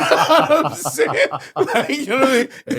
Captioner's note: laughing